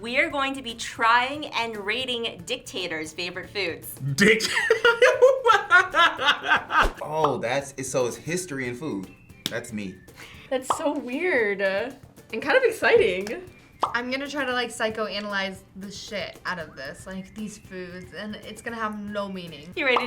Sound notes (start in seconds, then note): 4.1 laughs